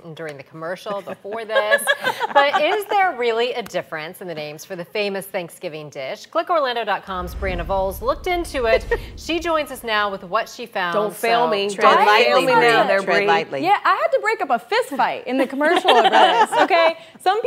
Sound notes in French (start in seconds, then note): 0.8 laughter